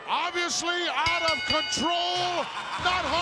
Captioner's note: bell ringing